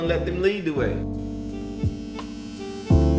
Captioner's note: clippers buzzing; hip hop music